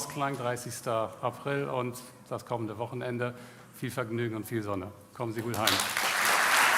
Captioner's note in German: applaus